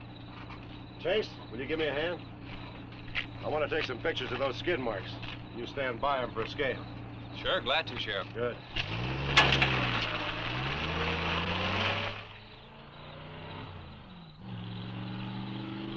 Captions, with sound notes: Chase, will you give me a hand? I wanna take some pictures of those skid marks. You stand by them for scale. - Sure, glad to, Sheriff. - Good. (truck engine rumbling) (engine revving)